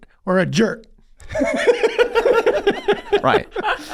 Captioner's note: Rob and Charlie laughing